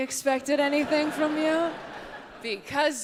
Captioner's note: audience laughs